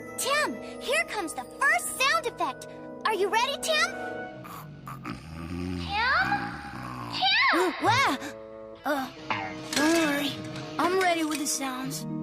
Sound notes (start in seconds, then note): 4.4 snoring